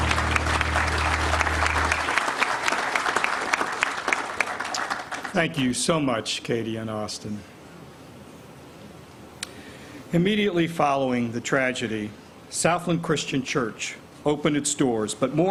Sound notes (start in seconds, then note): 0.0 applause